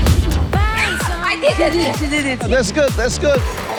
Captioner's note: gasps